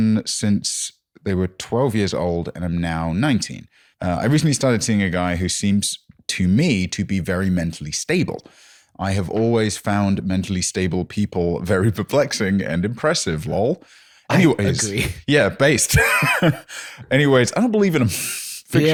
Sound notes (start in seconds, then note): 15.8 laughs